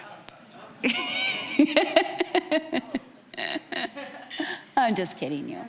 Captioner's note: laughing